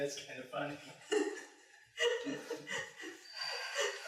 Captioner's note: laughing